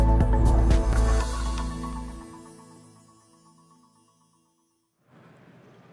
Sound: bright music; logo whooshing

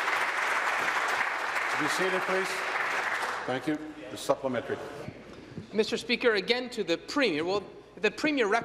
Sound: applause

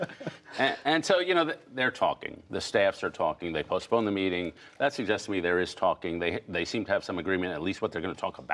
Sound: laughter

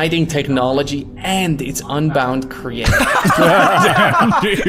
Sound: all laughing

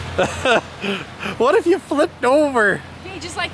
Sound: laughs

